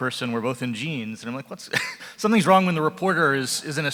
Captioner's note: laughs